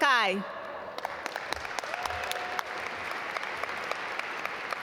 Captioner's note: audience applaud